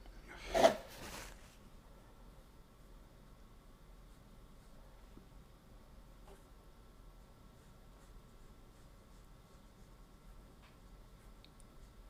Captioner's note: silence